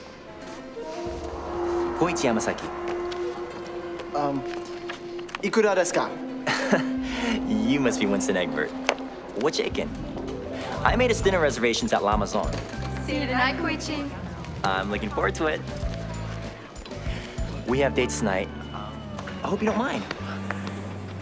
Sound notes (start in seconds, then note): 5.2 speaking Japanese